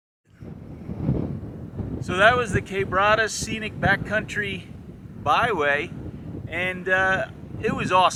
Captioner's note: wind noise